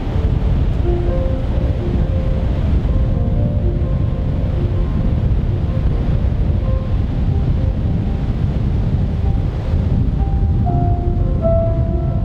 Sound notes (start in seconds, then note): 6.5 sound of wind